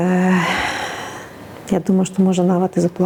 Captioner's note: sighs